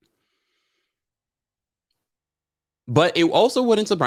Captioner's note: exhales